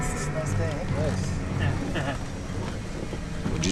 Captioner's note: voiceover